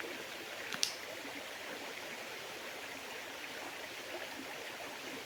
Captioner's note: sound of water